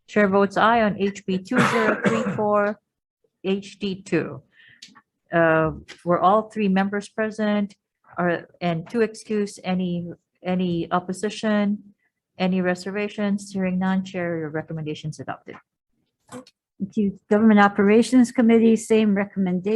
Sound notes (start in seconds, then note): 1.4 coughing